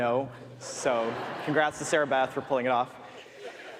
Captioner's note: audience laughs